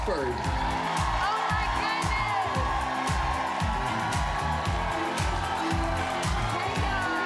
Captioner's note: cheers and applause